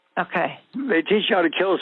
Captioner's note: over the Phone